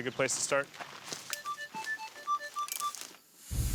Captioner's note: metal detector beeping